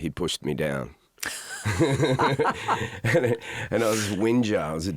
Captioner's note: both laugh